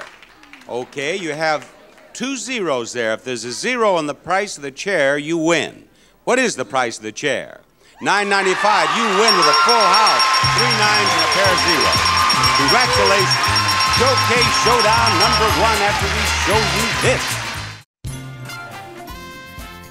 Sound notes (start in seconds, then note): 11.1 bell ringing and crowd cheering